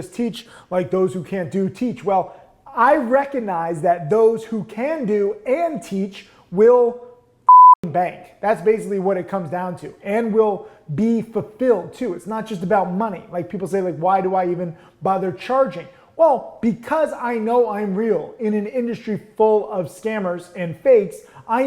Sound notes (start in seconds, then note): 7.4 beep